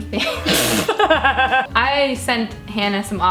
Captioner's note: laughing